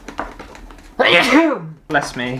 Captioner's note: achoooooo!!!